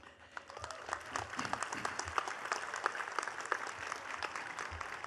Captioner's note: attendees clapping